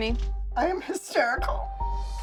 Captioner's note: voice breaking